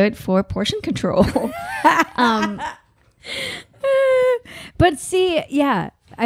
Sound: laughing

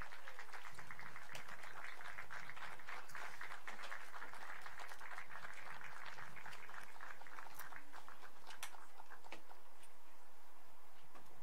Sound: applause

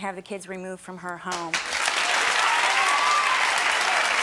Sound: clapping

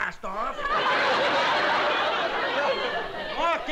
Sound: laughter

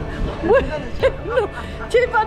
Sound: laughs

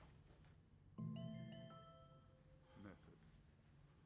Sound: mobile bleeps - "message"

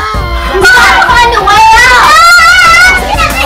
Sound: loud Cries and Talking

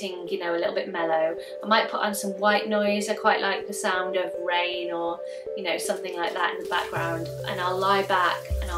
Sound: water running

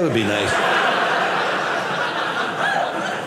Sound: audience laughing

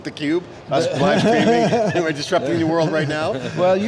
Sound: laughing

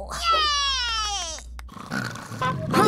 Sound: snoring; scooter noises

